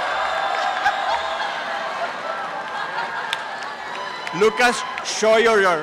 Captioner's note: applause and cheering